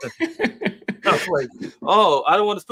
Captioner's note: laughter